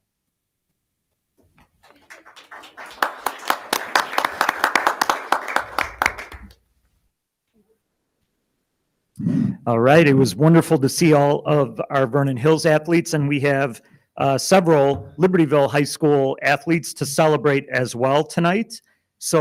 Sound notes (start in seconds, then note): 1.8 audience applauding; 2.0 attendees chattering